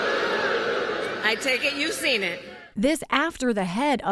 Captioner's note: booing